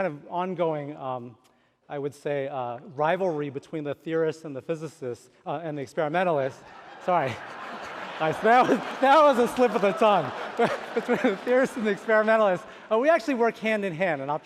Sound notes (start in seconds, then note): 6.6 laughter